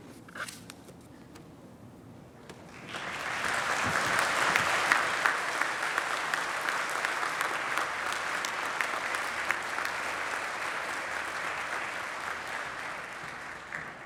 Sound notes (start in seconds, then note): 2.5 applause